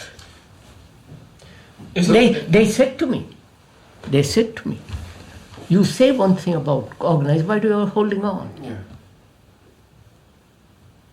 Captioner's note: laughs